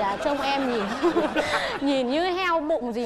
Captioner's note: laughing